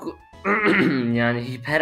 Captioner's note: cough